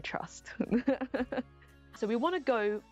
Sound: laughs

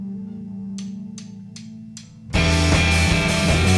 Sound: drum sticks tapping; rock music

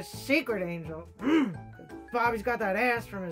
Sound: grunts

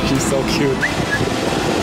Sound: whistle

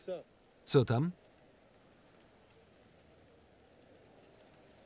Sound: rain falling

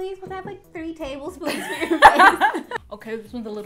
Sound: laughs

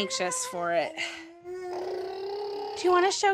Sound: blowing raspberries

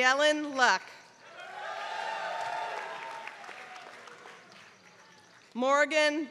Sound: applause

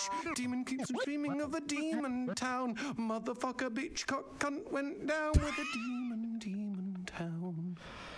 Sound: laughs

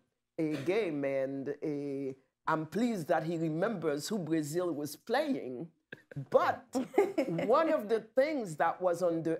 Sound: laughter

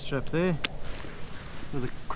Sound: buckle clicks

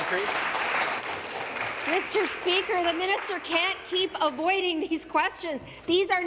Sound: applause

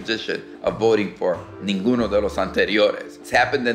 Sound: speaking in Spanish

